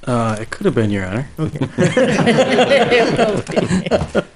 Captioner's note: all laughs